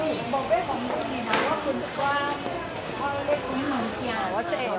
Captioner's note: converses in Chinese